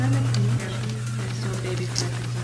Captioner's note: mumbles